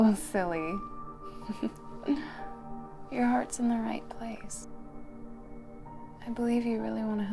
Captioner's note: laughs